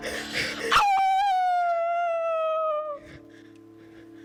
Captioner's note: howls